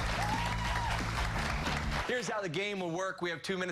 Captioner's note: cheers and applause